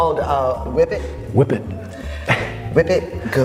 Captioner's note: laughs